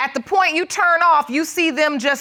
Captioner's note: none